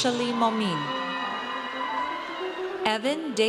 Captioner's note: audience cheers